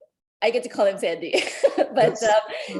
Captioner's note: laughing